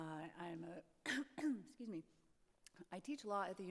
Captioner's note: throat clearing